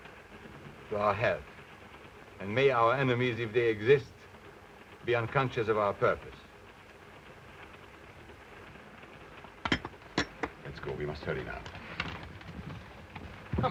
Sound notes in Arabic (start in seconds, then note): 0.0 صوت خشخشة القطار; 9.7 صوت النظارات ينهمر